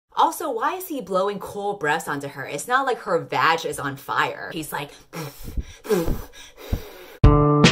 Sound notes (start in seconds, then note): 5.1 blowing noises; 7.2 intro music